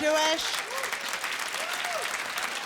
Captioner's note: applause